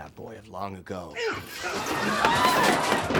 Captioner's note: Sonny grunts loudly; crowd clamoring; gavel banging